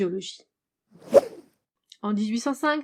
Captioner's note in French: Whoosh